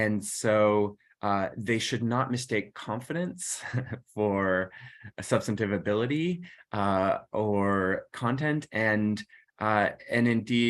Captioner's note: laughter